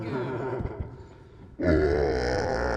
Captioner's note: hellish laughter